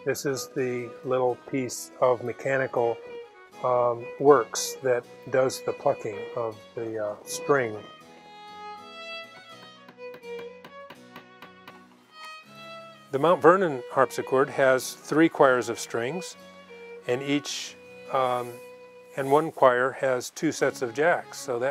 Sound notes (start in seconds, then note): 9.6 hammer thuds